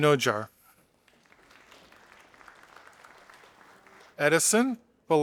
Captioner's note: audience applauding